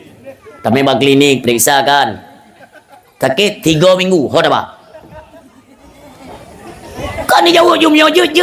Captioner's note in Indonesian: tertawa